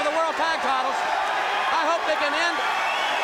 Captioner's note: crowd cheering